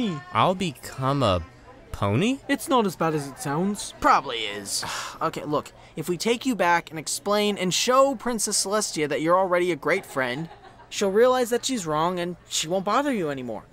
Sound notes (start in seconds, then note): 4.8 twilight sighs